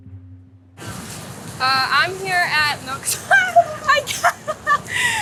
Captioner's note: laughing